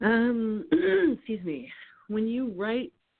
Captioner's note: clearing throat